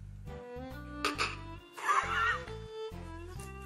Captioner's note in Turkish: Gülme sesi